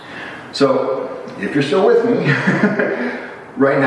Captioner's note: chuckle